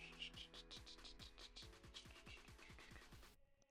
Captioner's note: humming